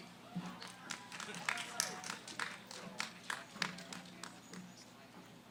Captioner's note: applause; background conversations